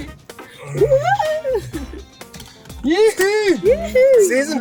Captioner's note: whooping